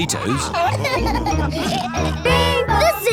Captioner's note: laughter